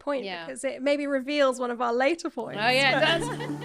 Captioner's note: laughing